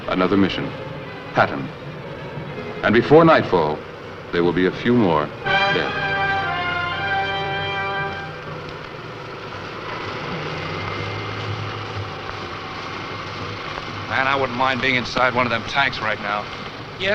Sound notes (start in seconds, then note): 5.2 instrumental music; 8.5 tank rumbling